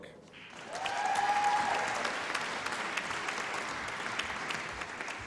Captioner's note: applause and cheering